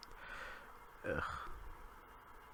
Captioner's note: sighs